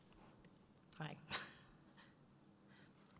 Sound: laughs

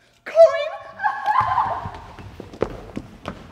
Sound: crying

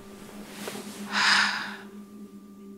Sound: sigh

